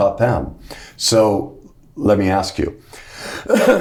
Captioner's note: clears throat